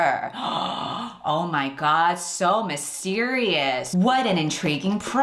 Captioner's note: gasps